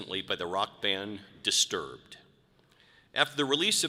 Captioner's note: none